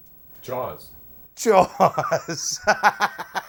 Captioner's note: laughs